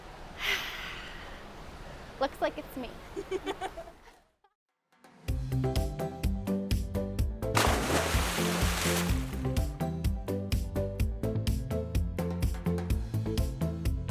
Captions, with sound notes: Looks like it's me. (laughing) (upbeat music) (water splashing)